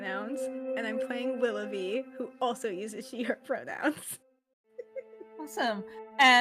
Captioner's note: laughs